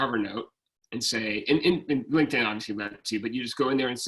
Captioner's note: speaking faintly